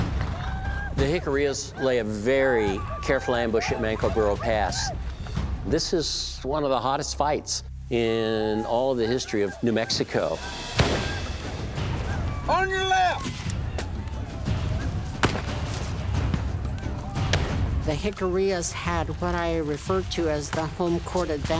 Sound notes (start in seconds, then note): 10.7 gunshot; 15.2 gunfire